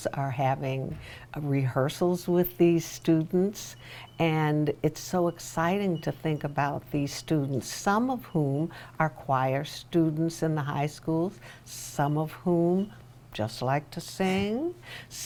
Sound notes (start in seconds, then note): none